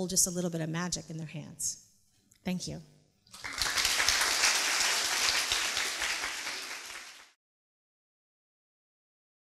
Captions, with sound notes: to hold just a little bit of magic in their hands. Thank you. (Applause)